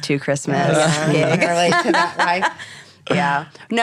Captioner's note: laughing